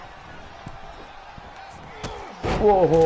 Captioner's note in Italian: Applauso